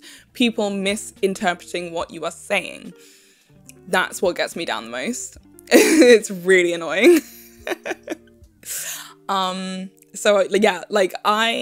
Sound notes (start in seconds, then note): 7.1 laughs in angery